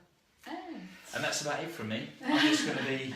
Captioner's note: laughs